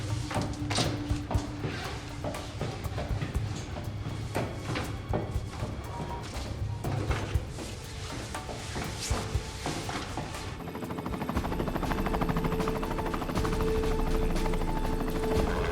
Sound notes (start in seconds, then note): 10.5 helicopter whirring